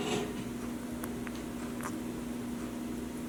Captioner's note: none